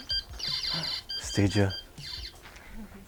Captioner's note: gasp